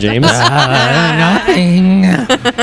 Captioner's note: laughter